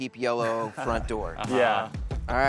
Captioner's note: chuckles